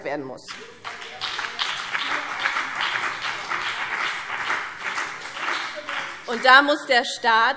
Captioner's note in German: Beifall BÜNDNIS 90/DIE GRÜNEN